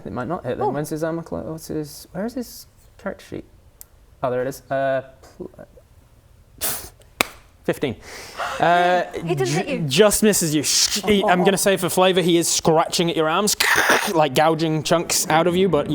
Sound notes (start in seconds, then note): 7.2 clap; 8.0 gasp; 10.7 scrrrr